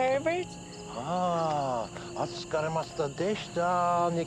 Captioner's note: speaking Japanese